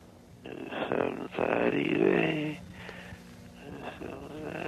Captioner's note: mumbling